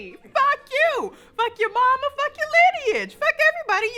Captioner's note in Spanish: Risas